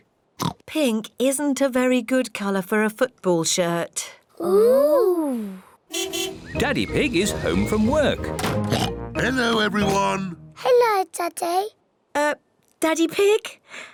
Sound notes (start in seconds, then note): 0.1 oinks; 5.9 car horn toots; 8.6 oinks